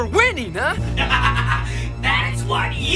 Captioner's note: chuckles